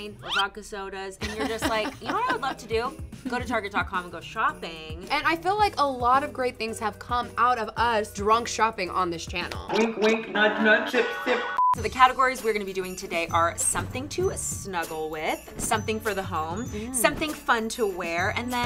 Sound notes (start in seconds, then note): 11.1 short beep